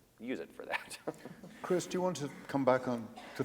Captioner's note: laughs